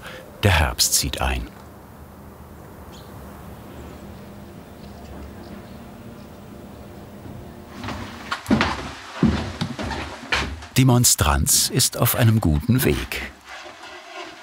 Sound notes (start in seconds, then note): 3.7 birdsong; 7.1 thudded footsteps